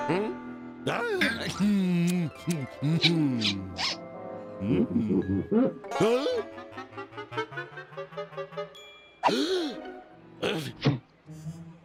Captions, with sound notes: HMM? DUH! MMM! MM! MM-HMM! (pumpkin squeaks) HUH? (gasps)